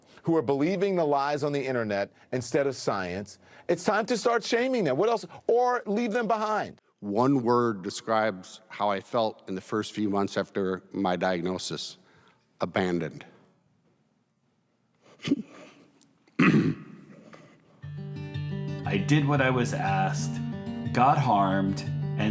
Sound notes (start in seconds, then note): 16.3 choking up and clearing throat; 17.8 soft music